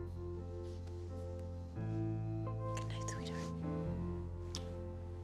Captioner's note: whispers